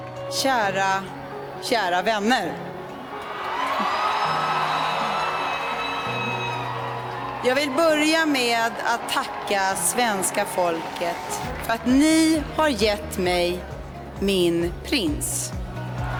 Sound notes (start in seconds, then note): 3.2 screams